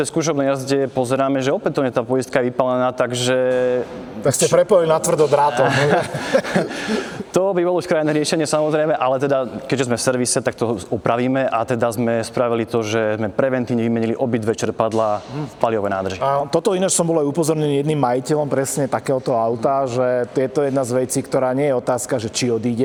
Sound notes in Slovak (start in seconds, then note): 5.1 smiech